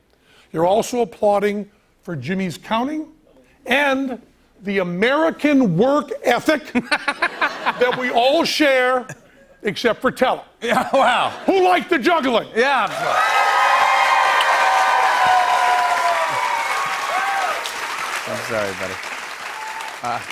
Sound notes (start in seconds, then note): 6.7 laughter; 12.8 cheers and applause